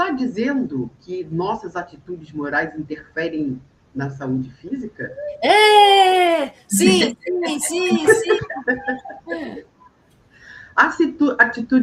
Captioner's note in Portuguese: risadas